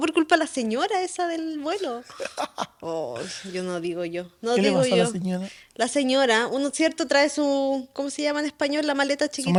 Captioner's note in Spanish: risas